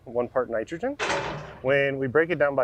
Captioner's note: excavator arm crashing